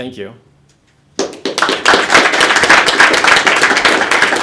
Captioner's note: applause